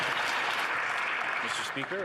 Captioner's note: some Applause